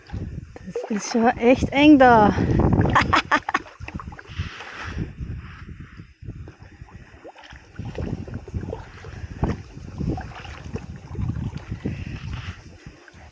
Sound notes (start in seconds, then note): 2.8 laughing; 9.8 paddling sound & wind